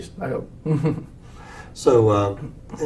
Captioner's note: laugh